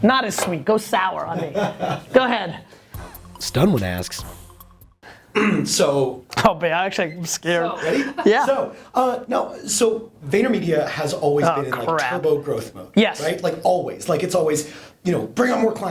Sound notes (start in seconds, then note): 2.5 voiceover